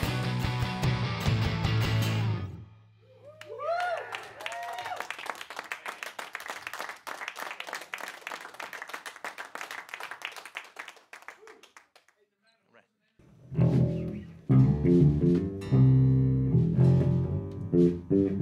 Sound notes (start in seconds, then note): 3.3 applause; 13.3 band Warms Up with Background Chatter